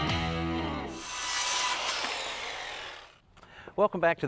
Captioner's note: saw whirring